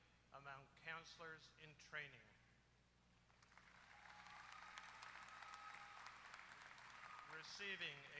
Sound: applause

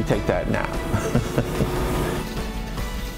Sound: laughs

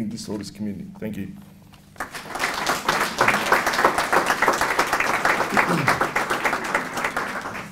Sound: applause

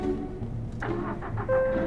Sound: car starts

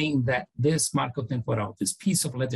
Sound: foreign language

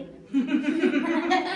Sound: giggles

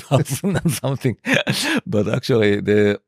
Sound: laughs

